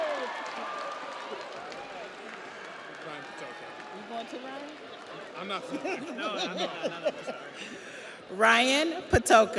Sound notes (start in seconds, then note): 2.9 audience applauds; 2.9 audience cheers; 8.6 laughs